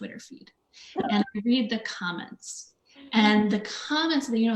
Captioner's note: laughs